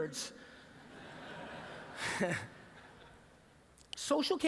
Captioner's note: laughter